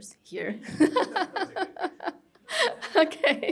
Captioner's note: laughter